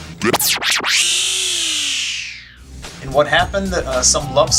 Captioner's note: record scratch